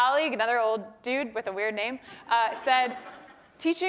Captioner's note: laugh